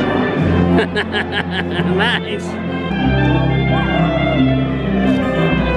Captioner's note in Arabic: يضحك